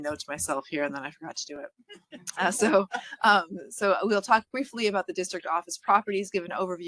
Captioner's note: laughing